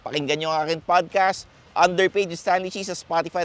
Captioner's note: none